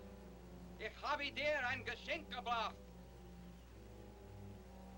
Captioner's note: speaking in German